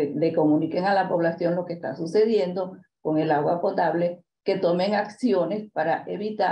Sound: continues speaking in Spanish

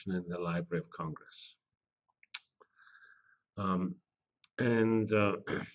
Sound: pause

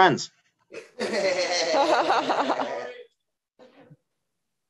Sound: audience chuckling

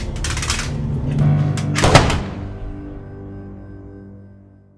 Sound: gunshot

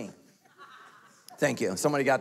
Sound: person laughing

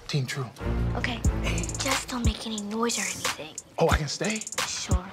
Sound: whispers

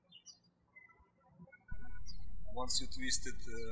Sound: birds chirping

